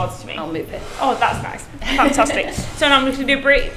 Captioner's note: laughs